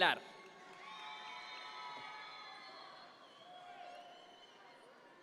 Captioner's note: audience members cheer